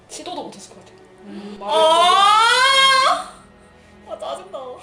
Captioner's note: crying